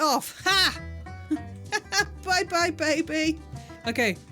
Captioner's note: laughing